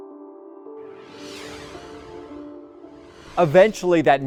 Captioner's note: gentle somber music; screen whooshes